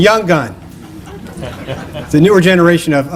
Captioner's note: laughter